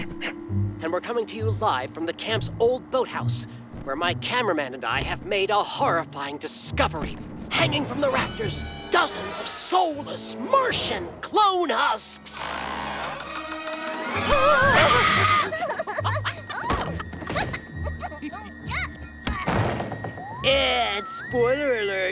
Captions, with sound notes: and we're coming to you live from the camp's old boathouse, where my cameraman and I have made a horrifying discovery hanging from the rafters, dozens of soulless Martian clone husks! [screaming] [giggling] And spoiler alert,